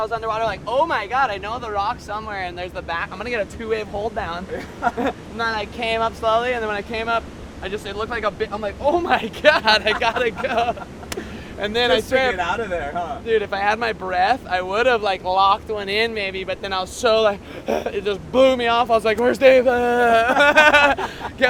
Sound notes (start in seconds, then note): 17.4 out of breath; 19.3 laughs